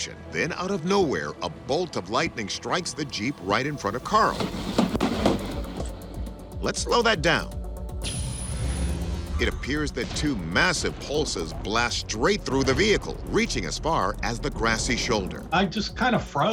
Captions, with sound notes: then out of nowhere, a bolt of lighting strikes the Jeep right in front of Carl. (lightning cracking) Let's slow that down. It appears that two massive pulses blast straight though the vehicle, reaching as far as the grassy shoulder. - I just kinda froze.